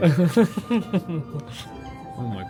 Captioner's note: chuckles